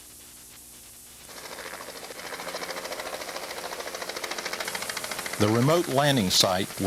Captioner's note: plane engine roaring